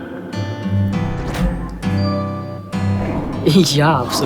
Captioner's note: message sound